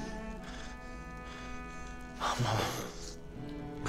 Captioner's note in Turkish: Hırıltılı nefes sesleri